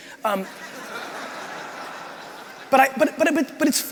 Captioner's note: crowd laughing